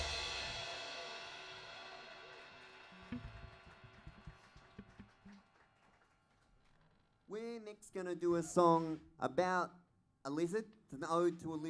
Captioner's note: band plays; applause